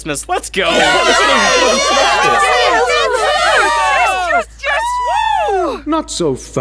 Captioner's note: cheering